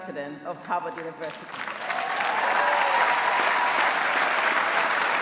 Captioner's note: applause